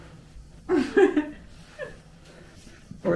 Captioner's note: giggling